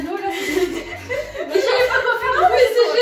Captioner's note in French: Rire